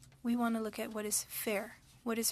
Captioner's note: speaking French